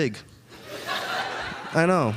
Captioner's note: audience laughing